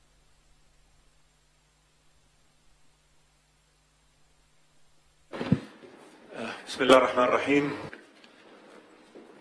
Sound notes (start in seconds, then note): 4.8 in Arabic